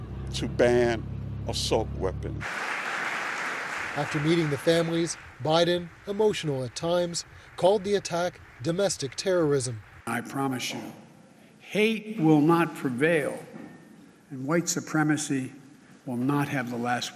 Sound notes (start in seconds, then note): 6.8 applause